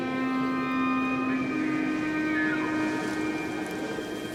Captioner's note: elk bugles